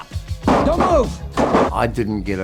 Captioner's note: clattering